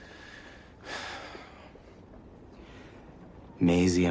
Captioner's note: exhales